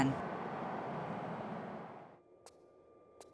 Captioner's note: weird noise ♫